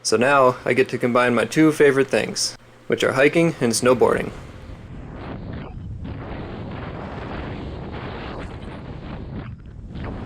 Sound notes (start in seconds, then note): 6.1 intense wind